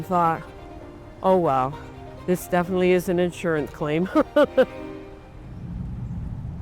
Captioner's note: laughs